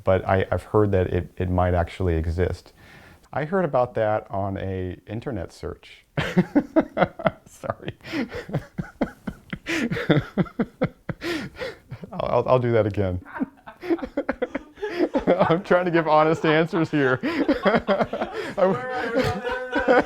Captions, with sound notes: but I've heard that it it might actually exist. I heard about that on an Internet search. [laughs] Sorry. I'll do that again. [laughing in the background] I'm trying to give honest answers here.